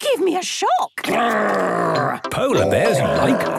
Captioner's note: loud growls